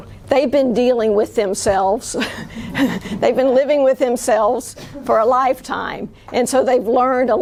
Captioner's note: chuckles